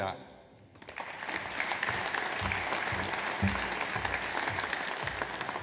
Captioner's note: audience applauds